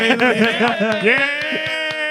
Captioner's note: laughter; applause